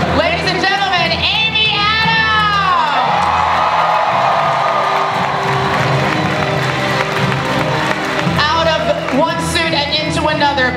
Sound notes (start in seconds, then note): 2.5 audience cheering and applause